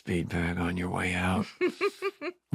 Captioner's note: laughter